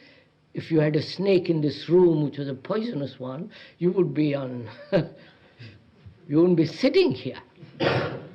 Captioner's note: laughs